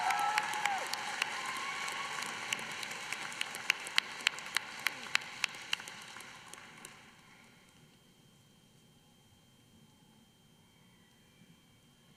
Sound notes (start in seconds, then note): 0.0 applause